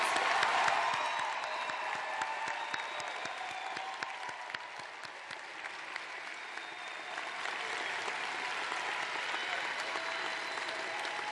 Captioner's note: cheers and applause